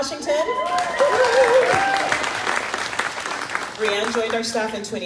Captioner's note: crowd clapping